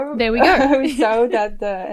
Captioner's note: laughs